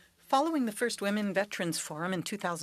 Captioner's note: speaking French